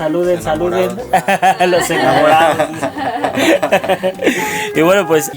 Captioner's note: laughter